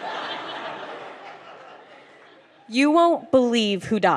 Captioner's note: laughter